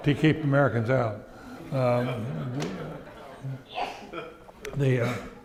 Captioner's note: audience laughing